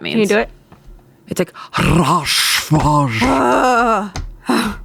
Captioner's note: growls; groans